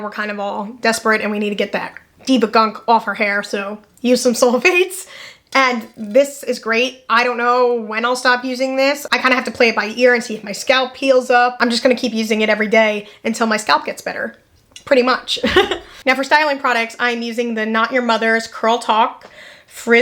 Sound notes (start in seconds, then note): 15.4 laughs